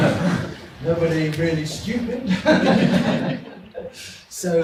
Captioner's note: audience laughs; audience laughs